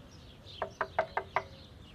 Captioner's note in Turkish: Kapı vurma sesi